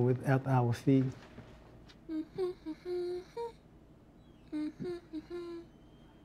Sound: humming

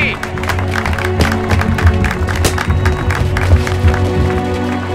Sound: applause

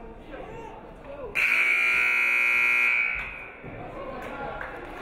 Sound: buzzer buzzes

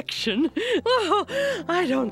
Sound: giggling

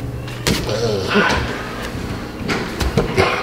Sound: grunting

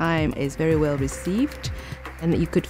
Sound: applause

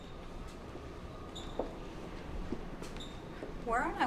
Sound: footsteps

